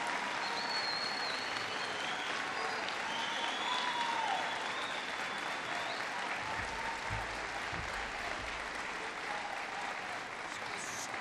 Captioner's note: applause